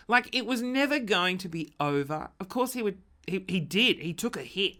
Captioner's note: none